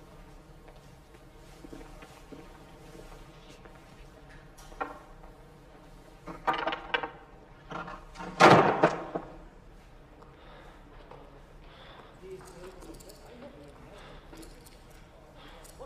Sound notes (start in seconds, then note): 8.4 door bangs